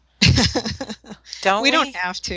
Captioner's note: laughter